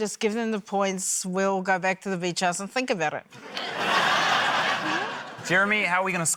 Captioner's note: laughter